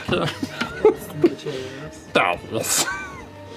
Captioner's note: laughter